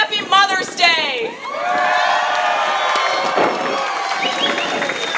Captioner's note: cheers